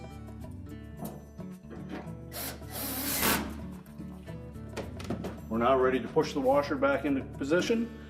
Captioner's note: electric screwdriver